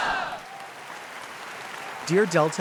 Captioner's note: audience applauds